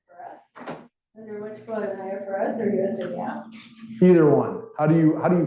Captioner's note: student speaking faintly